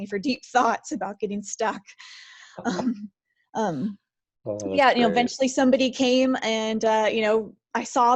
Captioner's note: laughs